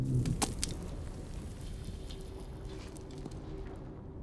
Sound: dirt thuds

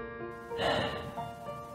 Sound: sigh

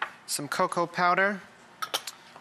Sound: none

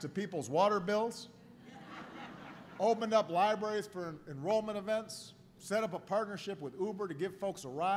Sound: laughter

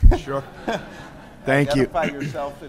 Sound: laughter

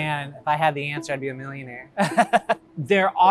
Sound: laughter

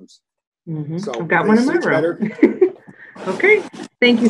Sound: laughs

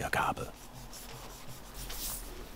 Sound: character noises

